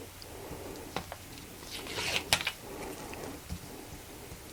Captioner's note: ripping